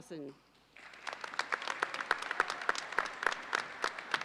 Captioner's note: audience applauds